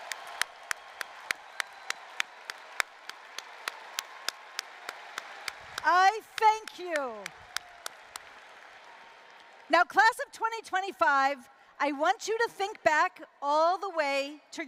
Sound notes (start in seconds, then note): 0.0 applause, cheering